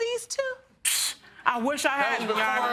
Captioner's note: scoffing